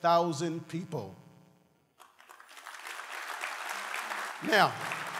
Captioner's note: applause